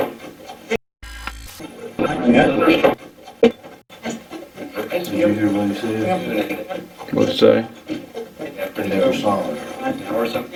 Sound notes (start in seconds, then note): 1.0 static fizzing